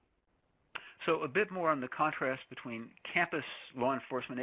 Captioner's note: voiceover